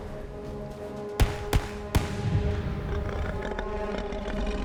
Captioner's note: gun firing